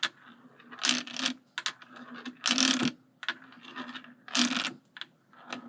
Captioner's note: marble rolling